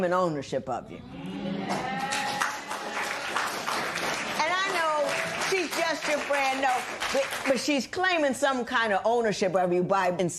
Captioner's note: applause